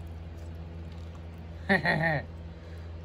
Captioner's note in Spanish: Capricho se ríe